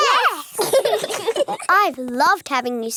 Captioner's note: laugh